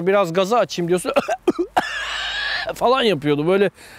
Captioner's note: cough